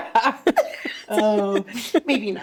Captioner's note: laughing